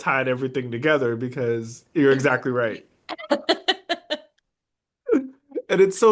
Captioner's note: laugh